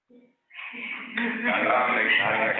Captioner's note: audience laughs